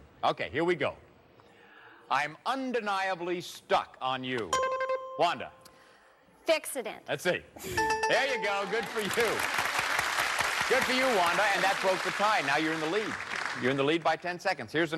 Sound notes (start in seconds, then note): 7.7 bell rings